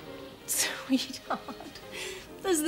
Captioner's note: laughs